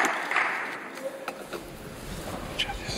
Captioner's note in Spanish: Aplausos